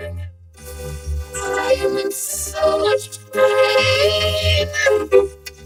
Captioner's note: voice glitching, stuttering